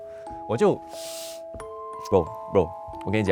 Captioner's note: sucking in air